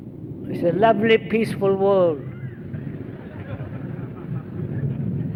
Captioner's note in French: rires